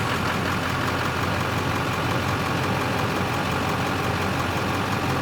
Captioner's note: truck ignition starting and motor engaging; vehicle motor humming